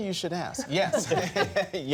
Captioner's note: laughter